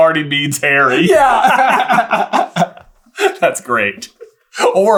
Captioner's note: laughter